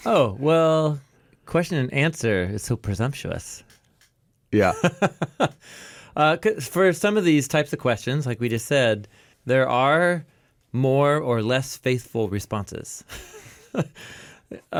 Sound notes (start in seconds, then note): 4.5 laughing; 13.7 laughs